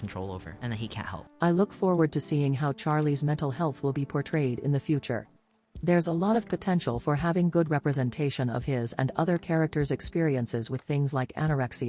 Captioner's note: robot voice